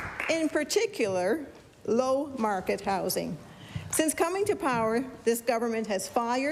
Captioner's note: applause